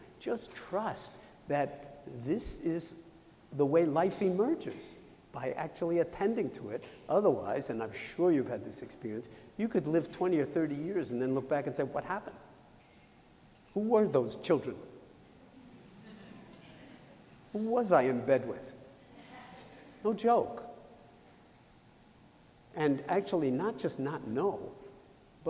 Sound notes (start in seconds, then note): 15.5 laughter